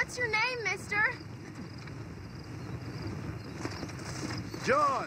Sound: bird calls

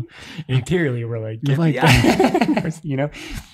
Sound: laughs

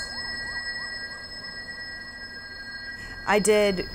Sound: street noise and police sirens

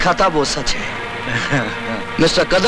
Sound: laughs

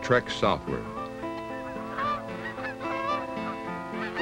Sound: goose sounds

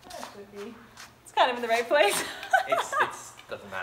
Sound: laughs

